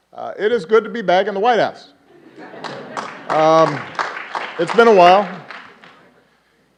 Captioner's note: applause